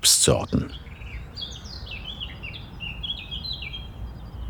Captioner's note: birds chirping